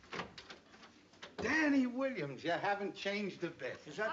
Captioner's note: none